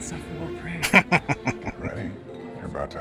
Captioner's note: laughing